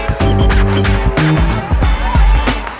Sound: background conversations; water flowing

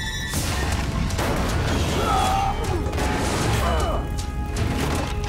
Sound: groaning

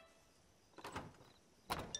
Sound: door opens

